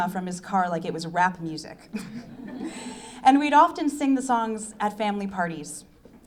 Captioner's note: laughs